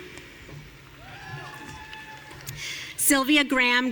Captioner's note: audience cheering